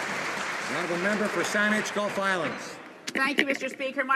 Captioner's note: some Applause